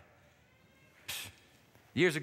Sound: scoffs

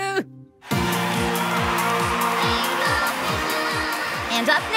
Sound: crowd cheers

